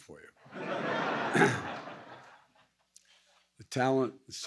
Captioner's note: laughter